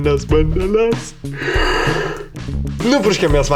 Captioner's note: yawns